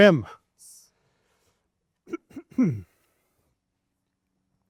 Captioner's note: coughing softly